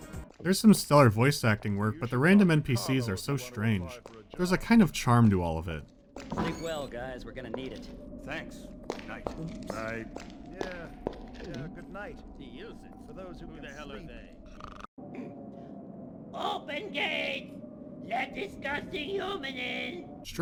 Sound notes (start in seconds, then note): 12.9 some more banter ending in snoring